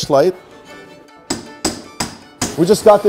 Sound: hammer clacks

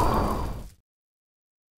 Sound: the silence is real

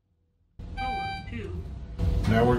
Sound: elevator beeps and says floor two

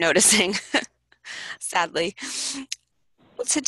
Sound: laughs

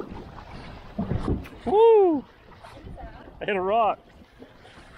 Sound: loud thump noise

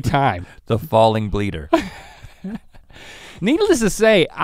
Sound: chuckles

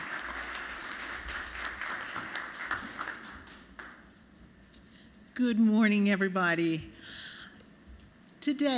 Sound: applause

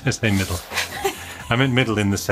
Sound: laughs

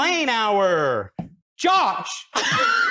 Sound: phone call voice

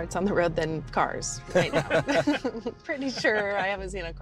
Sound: everyone laughing

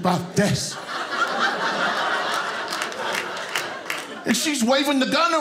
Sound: audience laughing

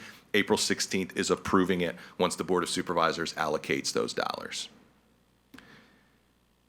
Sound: none

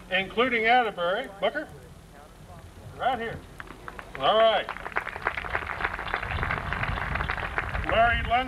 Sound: applause

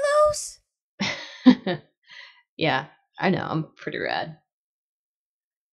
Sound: laughs

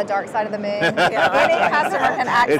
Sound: laughs

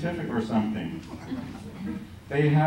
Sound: laughter

